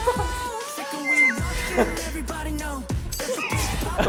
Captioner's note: stomp, stomp